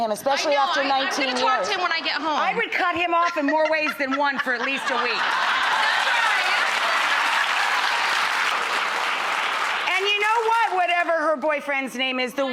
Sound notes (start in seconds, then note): 5.2 audience laughs